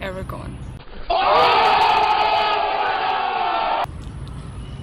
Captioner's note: dramatic shouting